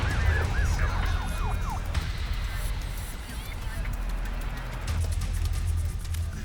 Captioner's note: sirens blaring; tense music